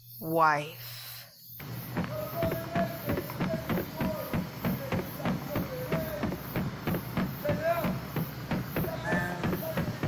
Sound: distant running and yelling

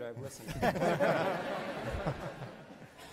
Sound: laughs

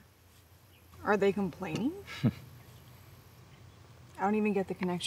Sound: man scoffs

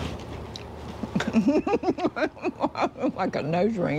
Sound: laughing

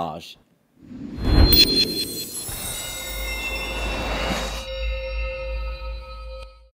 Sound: screen whooshes; glistening music

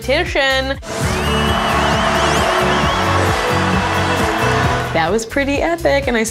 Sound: upbeat music; cheering

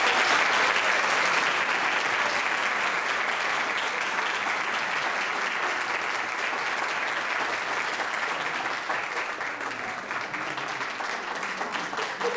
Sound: audience applauds

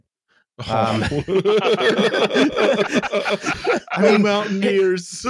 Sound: laughter

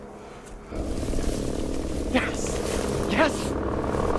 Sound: helicopter very close

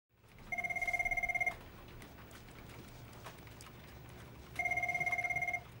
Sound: telephone ringing

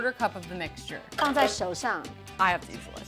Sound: speaks mandarin

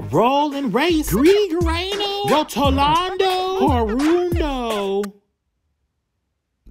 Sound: speaking in foreign language

